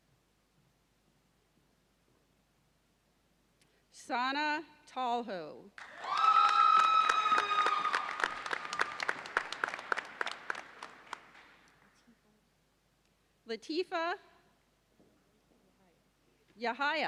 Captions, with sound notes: Sana Tahoe. (audience cheers and applauds) Lateefat Yahaya.